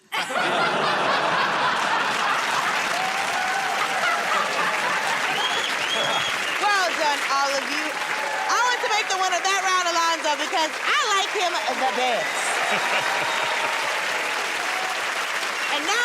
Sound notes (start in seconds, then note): 0.1 laughing; 3.2 cheers and applause; 12.6 laughs; 14.2 cheers and applause